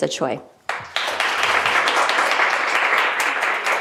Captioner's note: applause